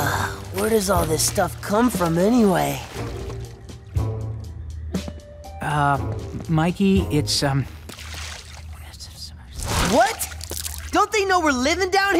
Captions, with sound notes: Where does all this stuff come from anyway? Uh, Mikey, it's, um [whispering] What? Don't they know we're living down here?